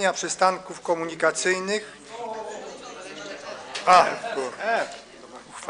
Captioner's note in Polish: śmiech